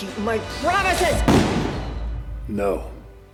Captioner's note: gunshot